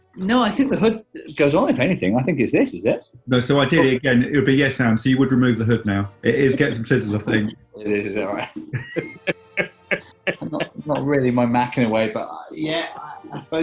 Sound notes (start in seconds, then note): 7.8 chuckling